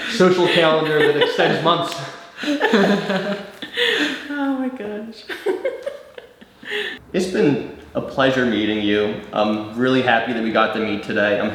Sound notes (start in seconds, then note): 2.3 both laughing; 5.3 laughs